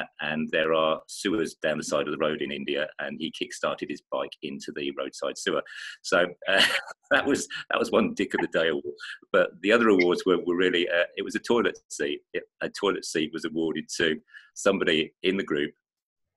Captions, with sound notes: And there are sewers down the side of the road in India, and he kick-started his bike into the roadside sewer. So (chuckling) that was one "Dick of the Day" award. But the other awards were, really, it was a toilet seat. Yeah, a toilet seat was awarded to somebody in the group